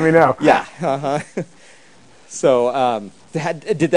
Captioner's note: laughing